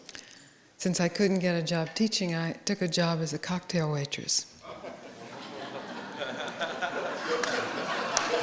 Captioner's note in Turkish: Gülüşme